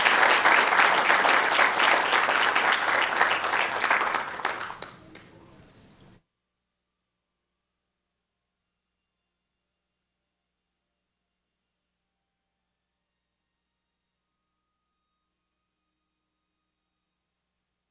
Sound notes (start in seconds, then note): 9.5 applause